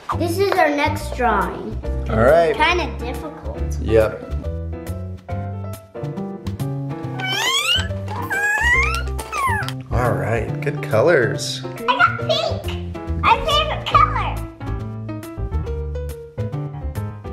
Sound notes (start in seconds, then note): 4.8 peppy music; 7.1 squeaking; 14.8 peppy music